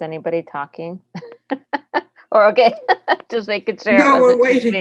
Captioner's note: laughs